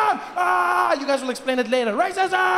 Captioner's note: yelling